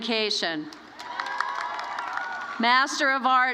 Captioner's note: applause